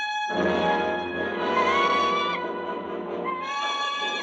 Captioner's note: bird squawking